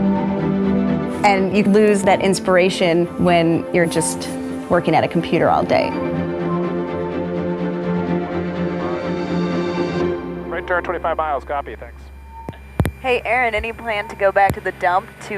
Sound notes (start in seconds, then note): 11.0 man On Radio